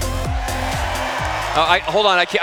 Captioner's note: cheers